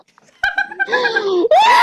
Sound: guffaws; both wildly laughing

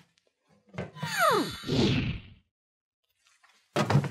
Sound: whooshing

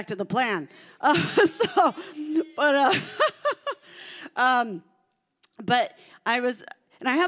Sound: laughing

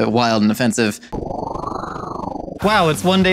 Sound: whirring

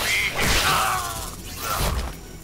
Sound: groaning

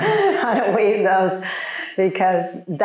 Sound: audience laughing; chuckles

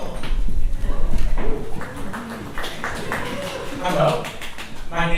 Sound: audience applauds and cheers

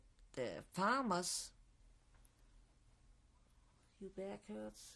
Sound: pauses for 3 seconds

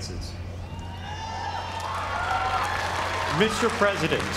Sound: applause

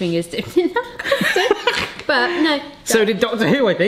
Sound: laughing

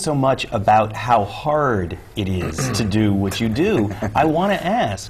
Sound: clears throat; chuckle

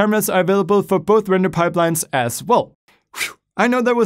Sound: whistles

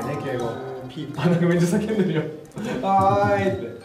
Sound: laughs

